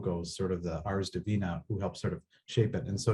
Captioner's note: speaks in Latin